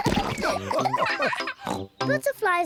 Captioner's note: all laugh